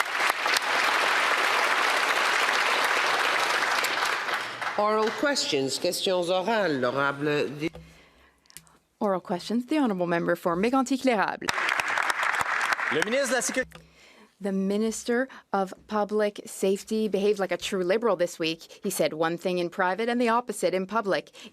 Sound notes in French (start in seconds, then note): 4.2 applaudissements